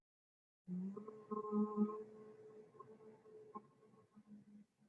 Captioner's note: humming